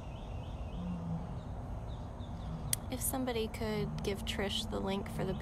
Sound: roars

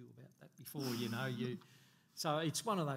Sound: laughing

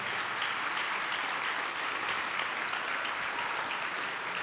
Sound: applause continuing

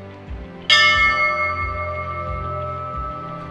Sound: bell dings

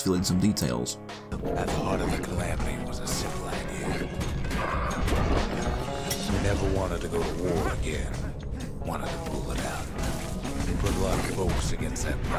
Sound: in-game audio

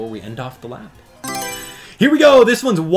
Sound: Mario Selection Sound

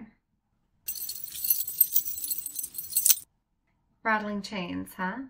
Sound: FX: Chains rattle

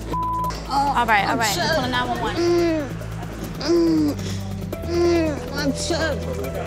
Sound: groaning

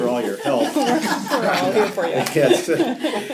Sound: laughter

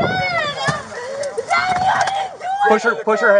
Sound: crying and yelling

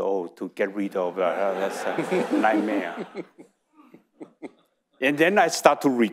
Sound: audience laughing

